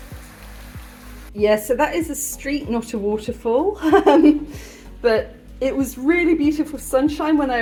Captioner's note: laughing